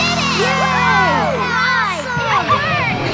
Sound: cheering

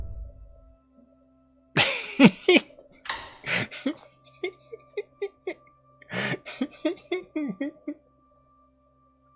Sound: laughs

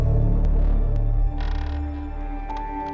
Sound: wood creaking

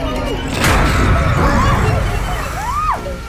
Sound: snarling

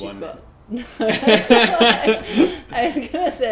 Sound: both laugh

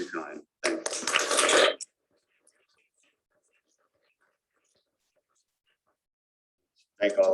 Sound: applause

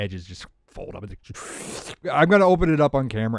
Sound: slurping sound

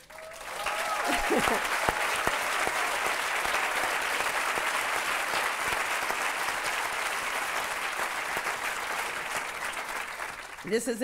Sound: applause

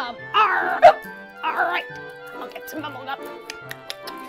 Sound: hiccups

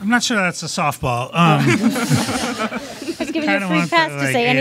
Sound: panelists laughs

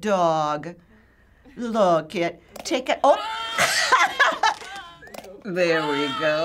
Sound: laughs

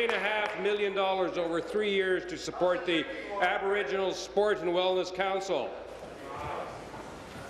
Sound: applause

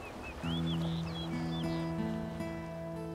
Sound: birds chirping

